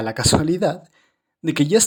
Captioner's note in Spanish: Silencio